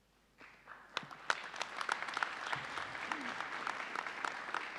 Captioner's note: audience applauding